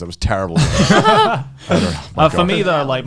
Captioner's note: laughs